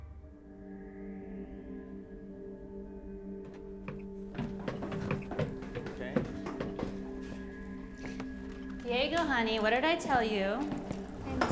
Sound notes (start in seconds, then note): 0.6 light dramatic music; 3.4 footsteps thudding